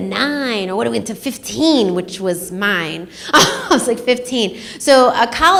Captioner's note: laughs